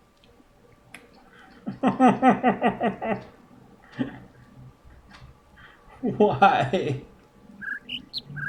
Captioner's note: overlapping birds chirping, ˩ ˧ ˥ ˩ ˥; whimpers laughing; overlapping birds chirping, ˩ ˧ ˥ ˩ ˥